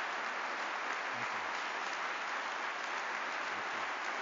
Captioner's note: applause